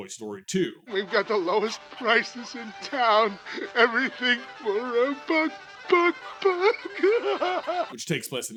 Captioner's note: sobs